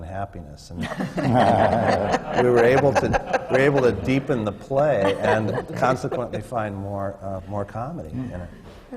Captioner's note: laughter